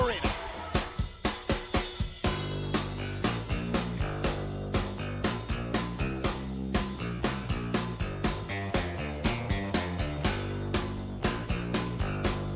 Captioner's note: crowd chatter